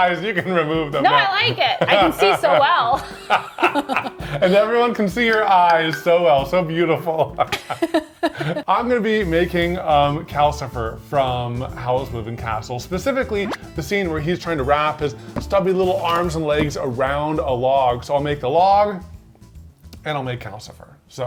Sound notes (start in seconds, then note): 1.6 both laughing; 7.5 laughing